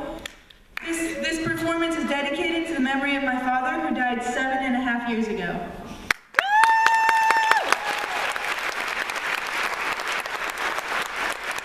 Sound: applause

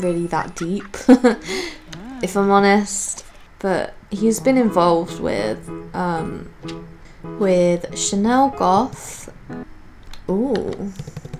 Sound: laughs

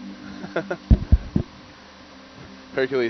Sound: scientist 2 laughs

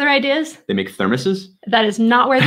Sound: chuckling

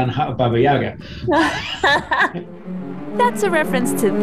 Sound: laughs

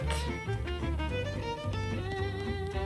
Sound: gentle tapping

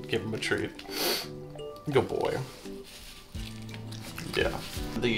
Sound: congested sniffles

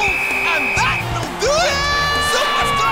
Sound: whistle blows

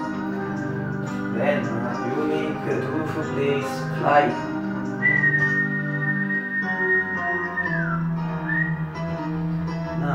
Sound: whistle

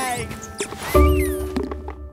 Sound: soundbite of squeaking

